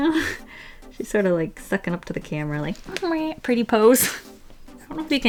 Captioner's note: squeaks